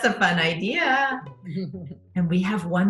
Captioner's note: laughs